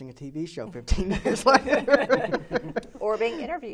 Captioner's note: laughing